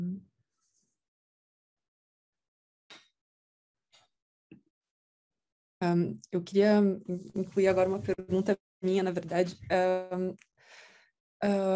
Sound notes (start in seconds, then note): 5.8 speaking in Portuguese